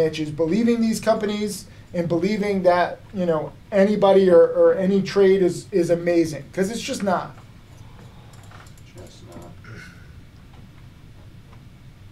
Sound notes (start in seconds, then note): 8.2 mouse clicking